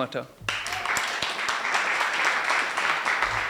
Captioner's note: applause